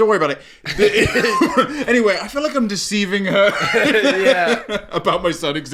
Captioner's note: laughing